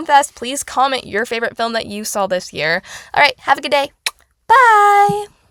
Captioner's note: kiss